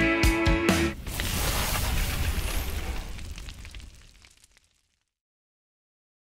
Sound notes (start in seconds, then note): 0.8 flames crackling